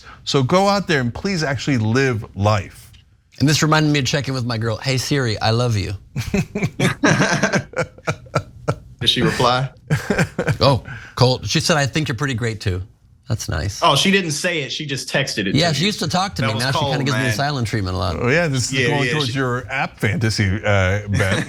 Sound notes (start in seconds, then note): 6.2 laugh